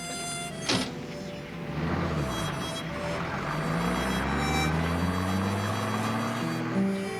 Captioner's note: engine rumbling